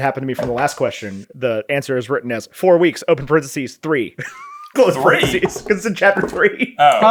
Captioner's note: laughs